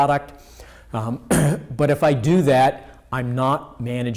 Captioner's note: clears throat